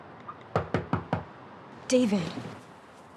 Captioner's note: knocking at the door